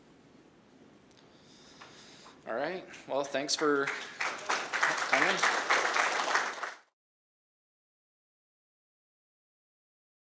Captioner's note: applause